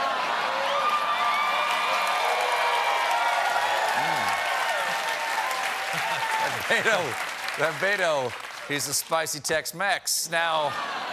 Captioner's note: cheers and applause